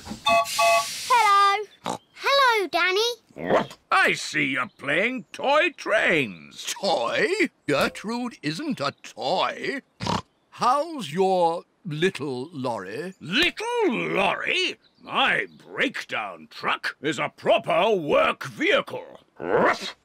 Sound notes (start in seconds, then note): 0.0 horn blares; 0.2 toots whistle; 10.0 snorts